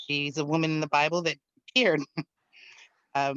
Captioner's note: laughs